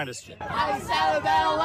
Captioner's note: chanting